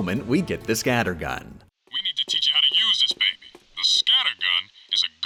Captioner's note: game audio